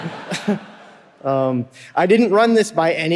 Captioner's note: audience laughing